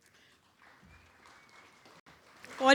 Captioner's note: audience applauds